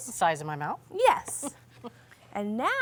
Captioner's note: laughing